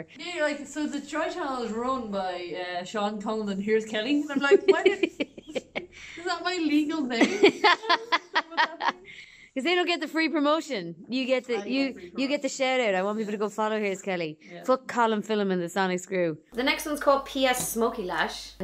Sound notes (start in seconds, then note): 6.0 laughter